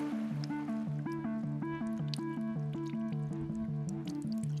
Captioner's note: water splashing